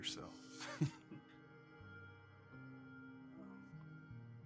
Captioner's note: chuckles